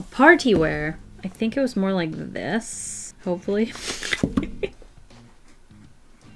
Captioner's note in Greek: Γέλια